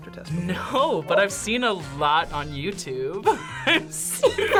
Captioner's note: laughs